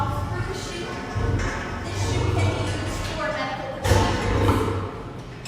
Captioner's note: door closing; lion growl